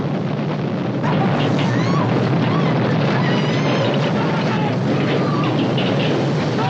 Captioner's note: loud rumbling, clattering, screaming